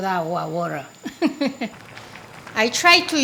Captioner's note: Maangchi laughs